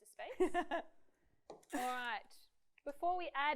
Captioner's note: laughs